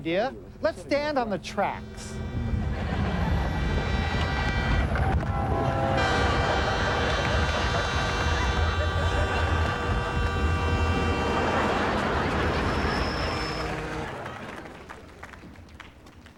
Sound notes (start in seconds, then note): 2.3 train approaching; 4.8 train whistle blowing